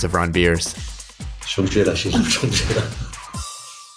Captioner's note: non-english speech